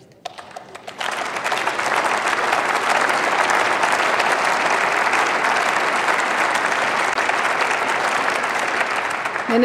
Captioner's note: Applause by CDU/CSU, members of the SPD and the Greens